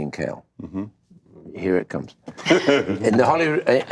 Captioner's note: Seth laughs